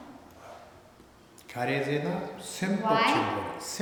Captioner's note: speaking tibetan